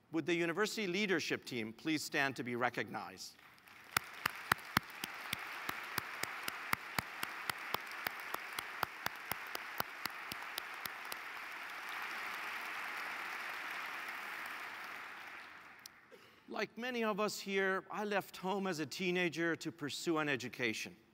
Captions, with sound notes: Would the university leadership team please stand to be recognized. >> [APPLAUSE] >> Like many of us here, I left home as a teenager to pursue an education.